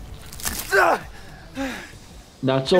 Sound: man groaning

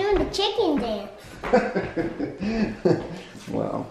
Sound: laughs

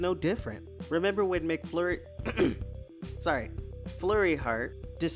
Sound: clears throat

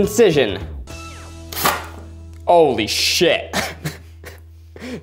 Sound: drill whirring; laughing

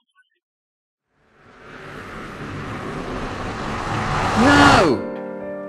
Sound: time travel noises

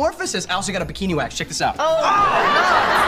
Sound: scream

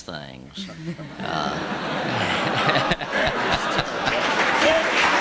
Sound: laughter; applause

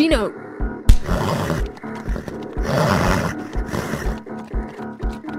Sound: grunting

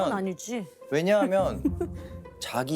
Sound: haha

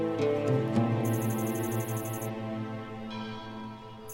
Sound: temple bell sound

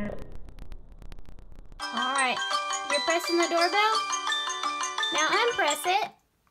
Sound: alarm sounds

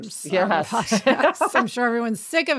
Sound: both laughing

